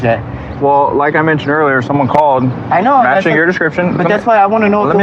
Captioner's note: none